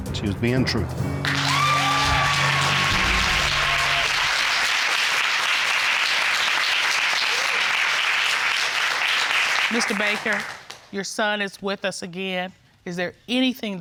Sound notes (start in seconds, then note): 1.2 audience whooping